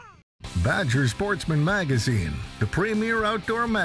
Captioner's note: voiceover